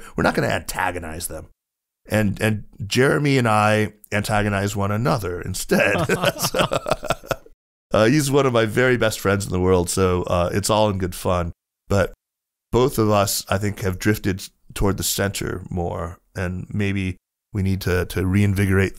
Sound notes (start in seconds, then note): 5.8 laughter